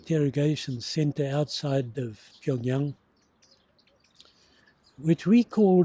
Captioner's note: foreign language